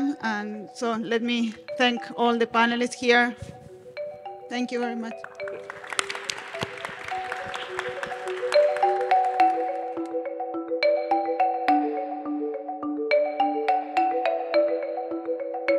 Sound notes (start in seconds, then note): 5.2 audience applauding; 6.5 bright music